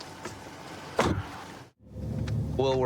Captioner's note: car door closes